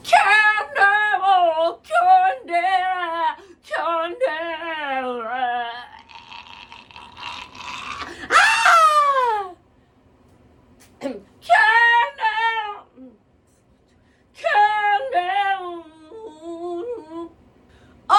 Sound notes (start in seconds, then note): 0.3 singing dramatically; 5.9 choking; 7.1 screams; 11.8 singing dramatically